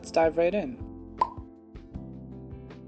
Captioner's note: pop